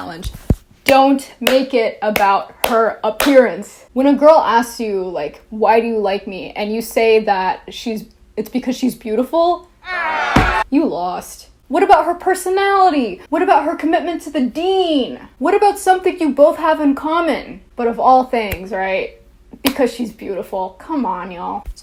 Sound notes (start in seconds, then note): 9.8 audience groaning